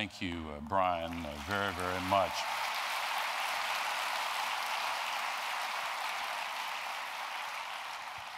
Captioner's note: applause